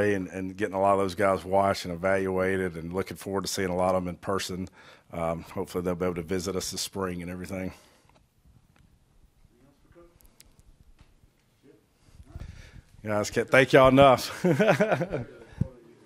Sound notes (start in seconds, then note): 14.2 chuckles